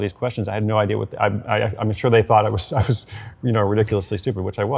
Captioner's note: laughs